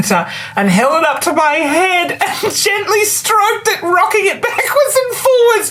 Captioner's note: laughs